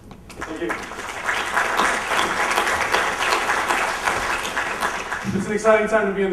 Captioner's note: applause